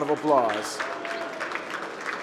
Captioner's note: applause